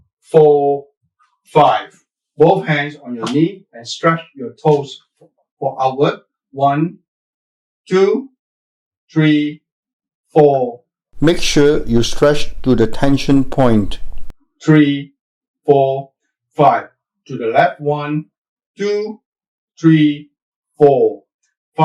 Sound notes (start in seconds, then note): 11.2 voiceover